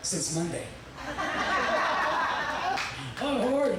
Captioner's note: audience laughing